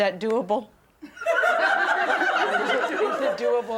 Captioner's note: laughter